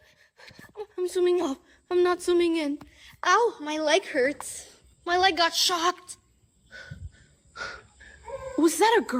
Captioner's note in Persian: صدای آه